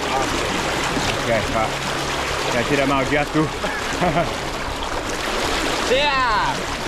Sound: laughing

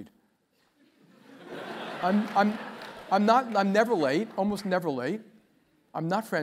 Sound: laugh

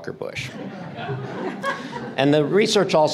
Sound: audience laughter

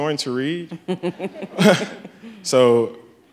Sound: Patrisse laughs

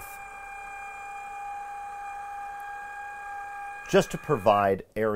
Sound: machine revving

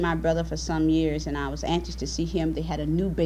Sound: none

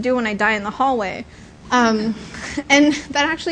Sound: laughter

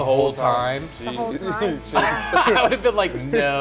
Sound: laughs

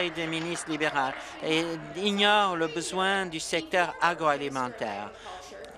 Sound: applause

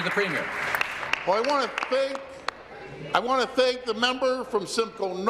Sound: applause

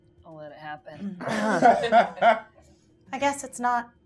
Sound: gamers laughing

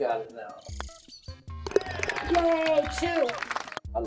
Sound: ball falls in cup, applause

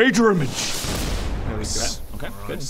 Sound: whoosh!

